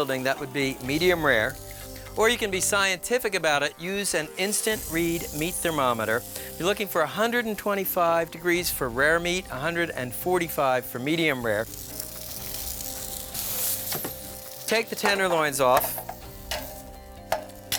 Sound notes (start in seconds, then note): 12.2 food sizzling; 12.2 gentle music